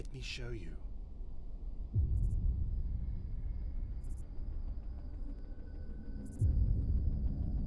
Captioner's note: crickets chirping; tense music